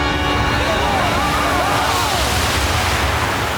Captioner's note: screaming